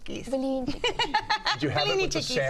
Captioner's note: laughs